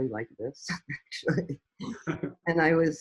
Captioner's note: chuckles